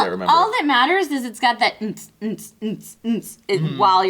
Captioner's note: humming